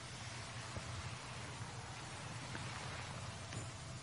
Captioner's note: water falling